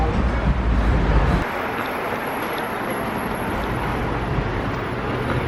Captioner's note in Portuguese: sons da rua com conversas ao fundo